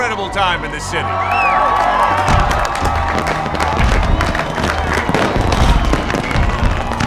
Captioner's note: crowd cheers and applauds; fireworks booming